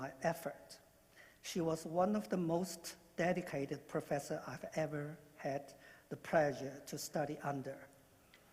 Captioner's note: speaking non-english